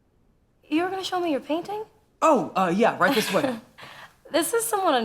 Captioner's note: Jane laughs